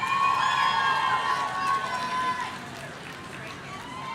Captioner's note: audience cheering